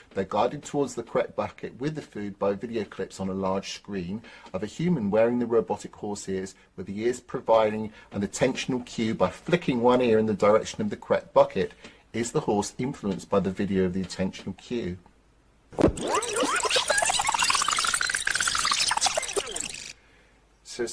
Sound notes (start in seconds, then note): 15.8 tape squealing